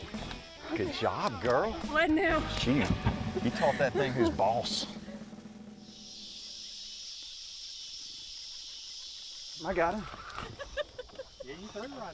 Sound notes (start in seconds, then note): 4.9 mosquitoes buzzing